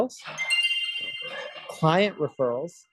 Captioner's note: chime sound